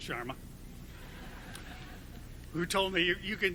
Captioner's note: audience laughing